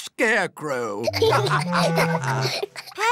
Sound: laughter

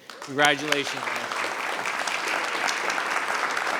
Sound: applause

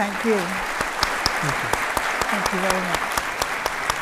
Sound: audience applauds

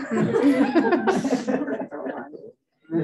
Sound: laughter

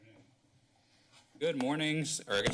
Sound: pause

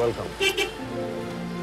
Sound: car honks

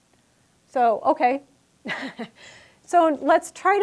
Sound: laughing

